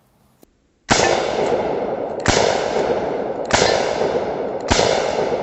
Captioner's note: gun fires